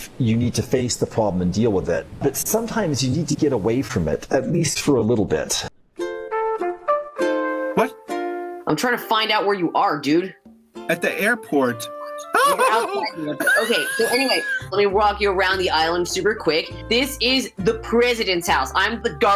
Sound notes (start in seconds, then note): 10.9 laughs